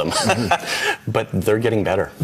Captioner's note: man laughing